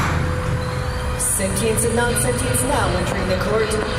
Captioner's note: a mechanical door opens slowly; banging gavel